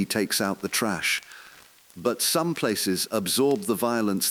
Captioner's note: exhale